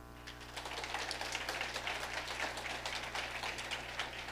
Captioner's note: audience applauding